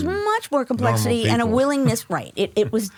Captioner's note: laughs